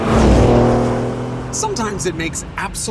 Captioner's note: laughs; engine revs